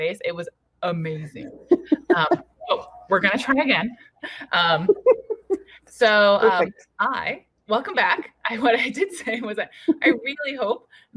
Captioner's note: laughter